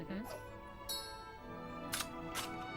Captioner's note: ding Sound